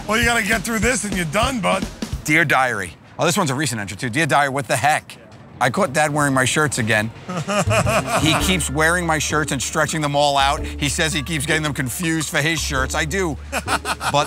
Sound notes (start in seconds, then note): 7.2 laughs